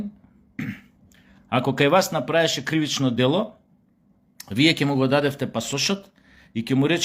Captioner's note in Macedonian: прочистување грло